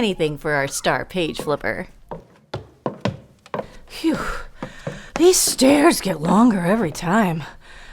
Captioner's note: sound of walking up staircase